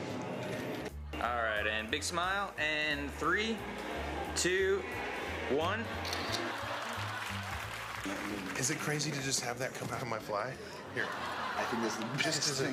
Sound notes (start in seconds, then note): 6.0 camera shutter clicks